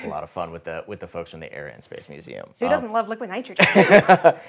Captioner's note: laughs